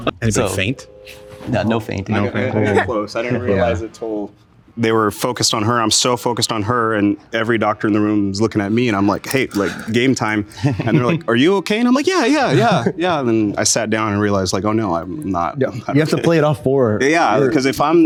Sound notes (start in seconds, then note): 0.0 person laughs; 2.8 baby sobs; 10.4 chuckles